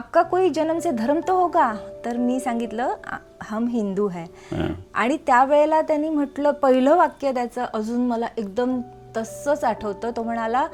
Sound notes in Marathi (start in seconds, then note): 4.5 घसा साफ करणे